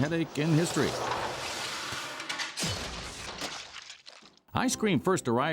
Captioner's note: guillotine blade falling